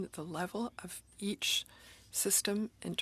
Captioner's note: speaking FRENCH